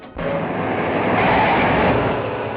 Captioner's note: tires screeching